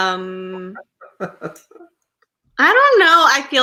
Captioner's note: laughs